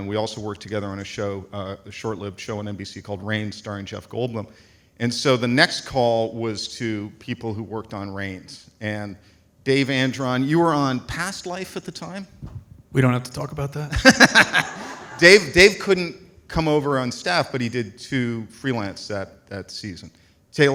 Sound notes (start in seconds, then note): 13.9 light laughter